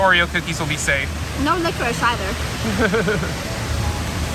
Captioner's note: laughs